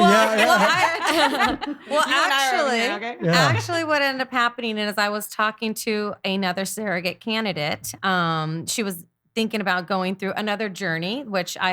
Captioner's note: laughing